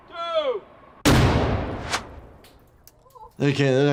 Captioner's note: explosion banging